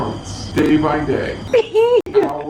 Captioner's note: laughing